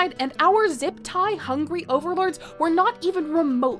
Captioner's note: none